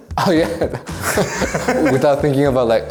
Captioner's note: both laughing